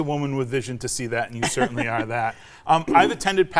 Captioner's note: chuckling